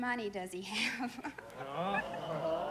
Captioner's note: audience groans